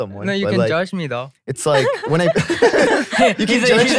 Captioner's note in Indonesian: tertawa